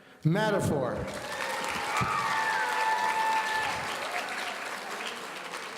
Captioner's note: audience cheering